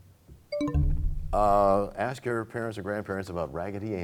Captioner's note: bell chimes, time expires